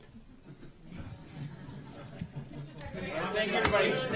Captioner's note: laughter